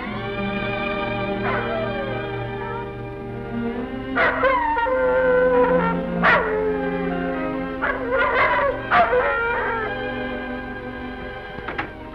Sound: howling

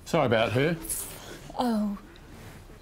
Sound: whispers

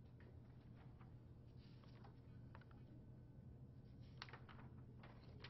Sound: flipping papers

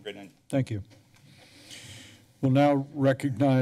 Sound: inhales

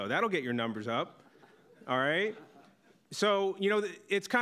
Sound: audience laughing

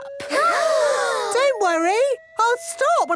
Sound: children gasp

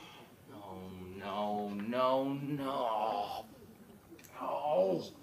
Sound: groans

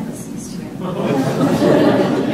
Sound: laughter

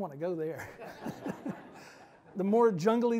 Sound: all laughing

